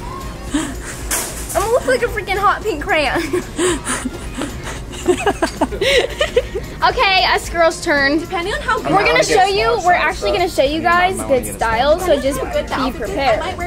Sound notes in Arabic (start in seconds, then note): 3.1 أمي تضحك